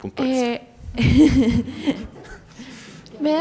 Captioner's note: laughs